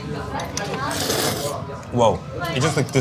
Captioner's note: slurps